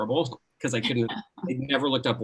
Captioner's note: chuckling